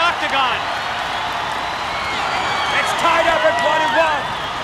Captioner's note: applause